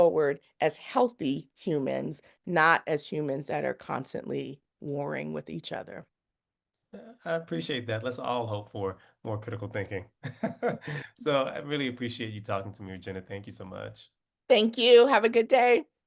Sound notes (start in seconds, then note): 10.2 laugh